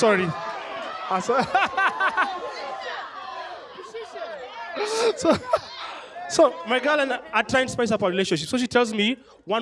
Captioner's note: laughter